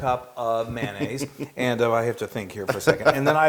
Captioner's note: laugh